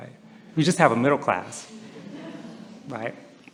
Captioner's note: laughter